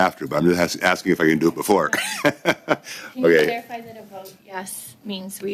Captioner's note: laughter